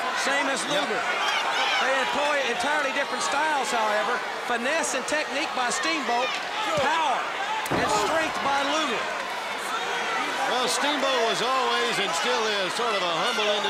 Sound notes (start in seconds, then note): 5.5 crowd chatter